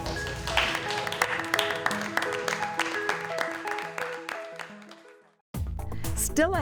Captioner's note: applause